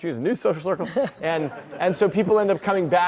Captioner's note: audience laughs